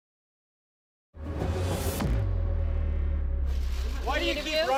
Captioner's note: whooshing